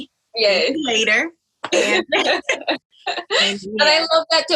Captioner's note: laughs